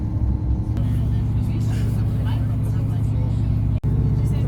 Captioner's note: train sounds and people chatting